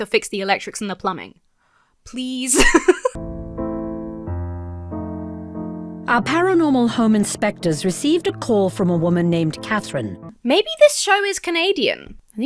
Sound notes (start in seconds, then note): 2.4 laughs; 3.2 reflective music